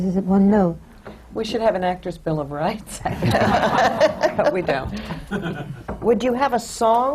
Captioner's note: laughter